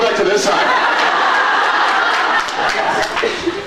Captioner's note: laughs